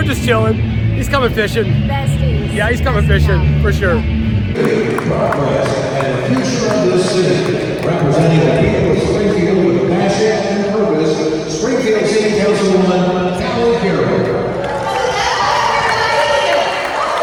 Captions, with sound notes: We're just chilling, he's coming fishing. Besties. Yeah, he's coming fishing, for sure. (crowd clapping) (announcement over P.A.) Hello everybody!